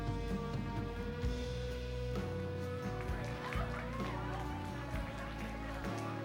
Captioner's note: crowd Chattering, Applauding